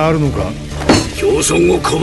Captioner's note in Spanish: Cris golpea la mesa